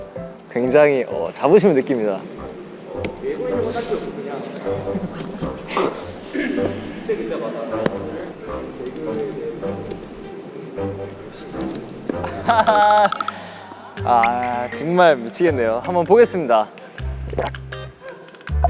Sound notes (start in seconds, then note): 1.1 there's a noisy commotion; 5.0 haha; 7.0 giggles